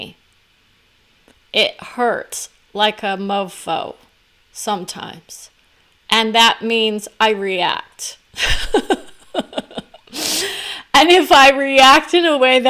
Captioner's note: laugh